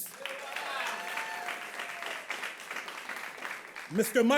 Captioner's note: audience claps